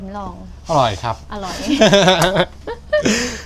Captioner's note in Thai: เสียงหัวเราะ